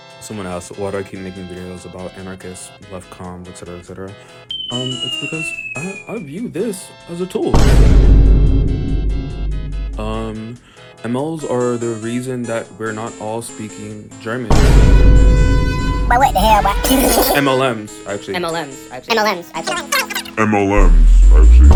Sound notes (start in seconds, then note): 7.6 vine boom & transitions to meme; 14.6 vine boom cuts off; 17.3 laughter